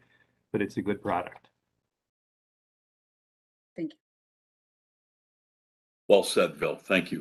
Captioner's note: A pause